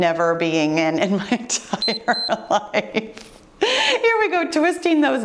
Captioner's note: timer beeps